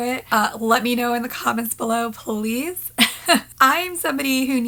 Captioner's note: laughs